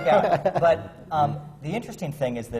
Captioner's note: laughter